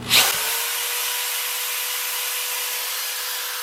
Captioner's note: drilling